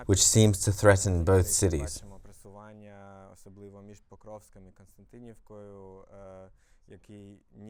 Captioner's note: Russian